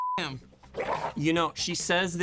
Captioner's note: dog growling